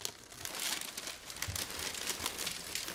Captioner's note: crackling